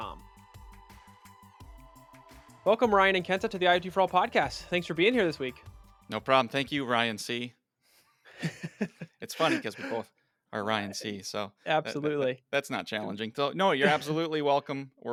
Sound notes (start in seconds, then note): 0.0 gentle music; 8.4 all laugh